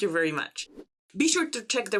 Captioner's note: slide whooshes